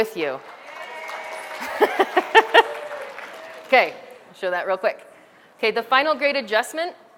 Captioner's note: background audience applause and yeah sounds; laughter